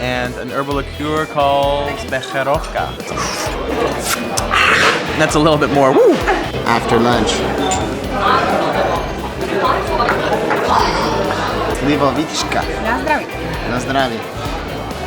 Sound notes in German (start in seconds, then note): 3.0 Schluck; 10.6 Klirren